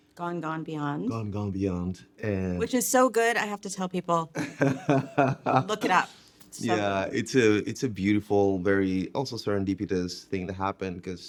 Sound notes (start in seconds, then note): 4.3 laughing